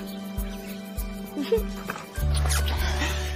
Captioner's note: laughing